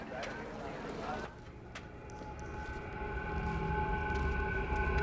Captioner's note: footsteps